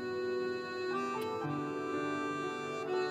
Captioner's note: Kisses